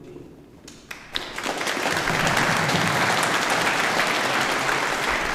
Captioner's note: audience applauding